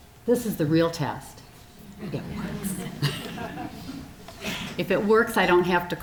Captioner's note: audience chuckling